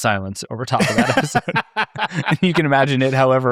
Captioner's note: participants laughing